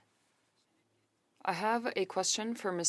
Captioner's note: speaking French